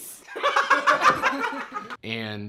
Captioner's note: laughs